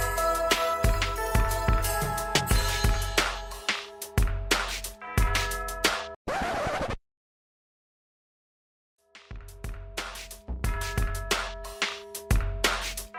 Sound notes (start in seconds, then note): 6.2 vinyl scratch